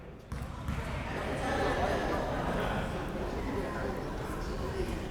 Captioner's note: crowd members talking